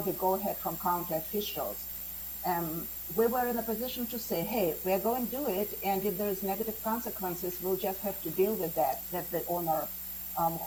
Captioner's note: spanish